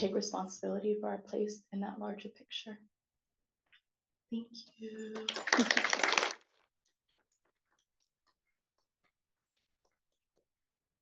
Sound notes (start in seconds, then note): 5.1 audience clapping